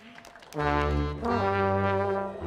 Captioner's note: audience applauding